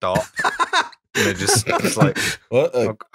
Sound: laughter

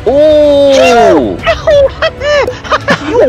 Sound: laughing reax

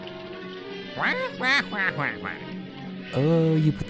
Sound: jokingly squawking

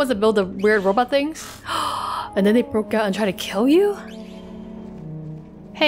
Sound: gasp

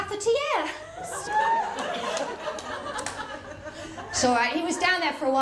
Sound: laughter

